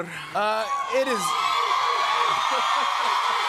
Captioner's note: cheers and applause